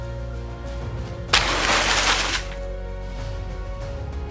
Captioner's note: loud rustling crash